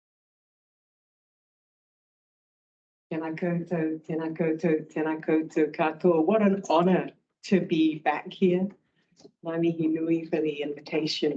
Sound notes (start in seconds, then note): 3.5 speaking in te reo Māori; 9.9 speaking in te reo Māori